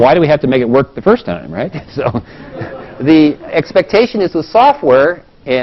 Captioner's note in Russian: смеется